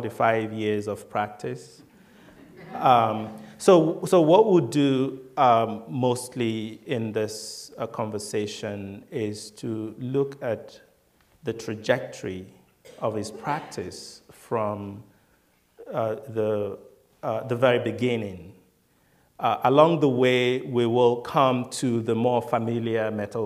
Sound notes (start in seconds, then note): 1.9 laughter